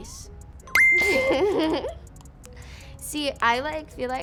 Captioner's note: laughs